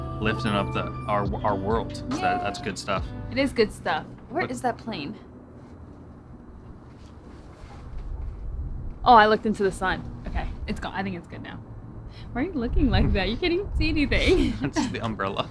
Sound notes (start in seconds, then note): 5.4 plane hums; 14.2 laughs